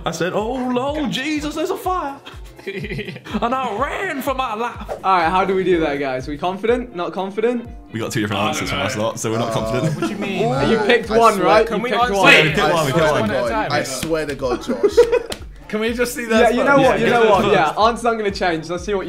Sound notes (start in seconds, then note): 2.2 chuckling